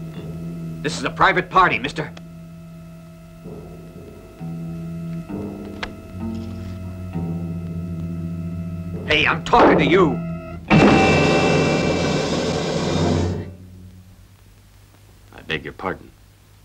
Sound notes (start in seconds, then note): 10.1 dramatic chord; 10.6 bangs